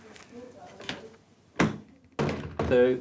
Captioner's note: door closes